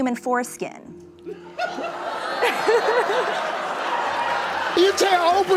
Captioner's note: laughter